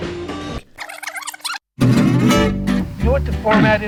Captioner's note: cassette squealing